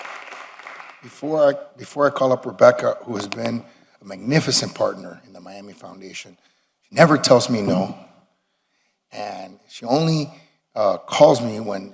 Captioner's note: applause